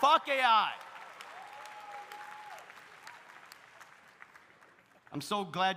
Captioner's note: audience cheering; audience applauding